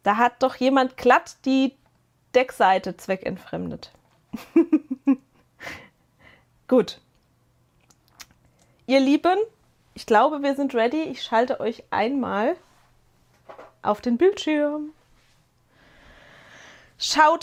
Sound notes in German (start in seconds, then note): 4.3 gelächter